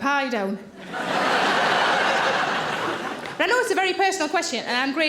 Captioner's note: audience laughing